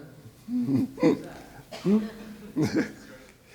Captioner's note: laughs